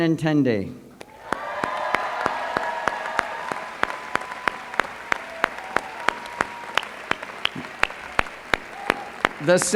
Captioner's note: applause